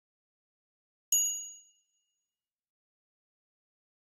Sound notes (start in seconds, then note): 1.2 sound of bell ding